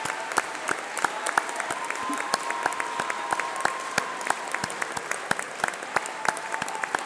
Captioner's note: applause